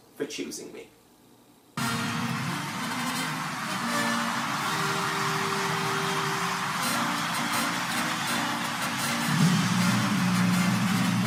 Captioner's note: applause, cheering, bugles